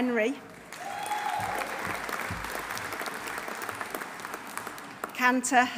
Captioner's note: audience applauding; audience cheering